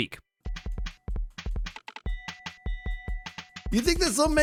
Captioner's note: various beats and dings